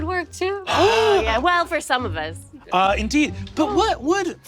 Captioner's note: Brennan gasps